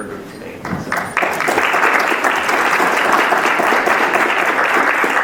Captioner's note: audience clapping